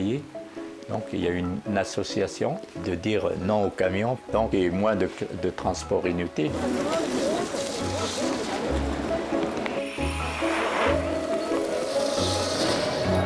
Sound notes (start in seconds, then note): 6.5 chattering in foreign language; 9.7 bicycle bells ringing